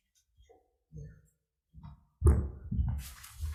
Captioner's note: faint footsteps thud; papers rustling